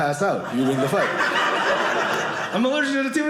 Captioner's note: audience laughing